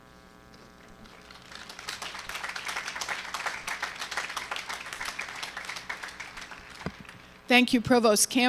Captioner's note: applause